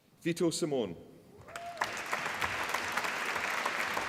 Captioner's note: applause